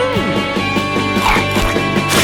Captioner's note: crunches and spits